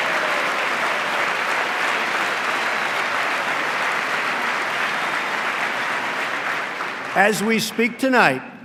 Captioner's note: applause